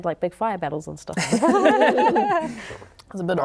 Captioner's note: laughing